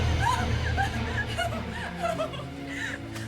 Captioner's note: sobbing